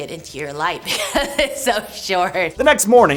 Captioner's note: laughing